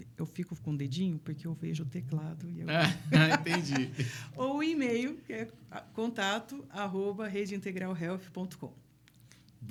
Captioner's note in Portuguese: risadas